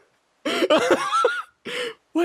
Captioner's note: laughs